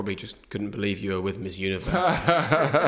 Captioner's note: laughter